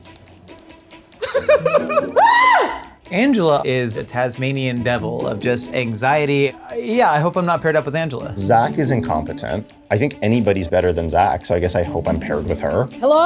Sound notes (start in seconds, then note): 1.2 laughs; 1.6 screams